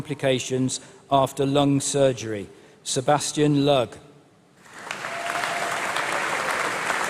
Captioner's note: applause